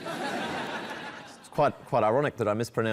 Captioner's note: laughter